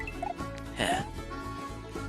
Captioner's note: sigh